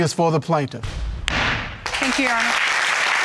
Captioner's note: gavel banging